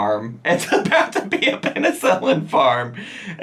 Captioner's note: laughs